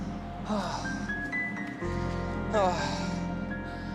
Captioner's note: sighs